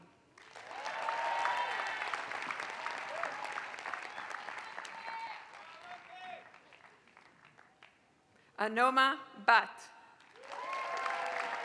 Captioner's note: applause; applause